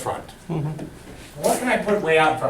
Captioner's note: voiceover